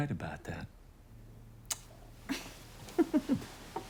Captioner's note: chuckles